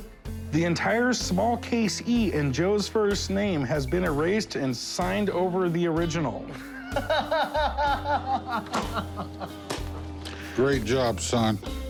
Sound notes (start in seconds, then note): 8.1 laughing; 8.5 slow clap